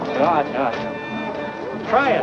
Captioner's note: speaks foreign language